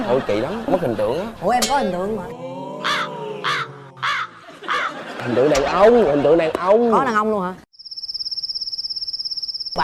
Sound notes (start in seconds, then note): 3.9 caw; 7.8 cicada